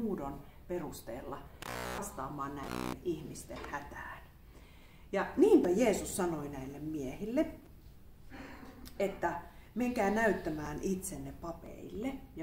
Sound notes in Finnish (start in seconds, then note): 2.6 äänihäiriö